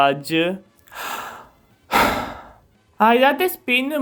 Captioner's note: sigh